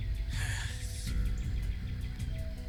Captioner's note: sigh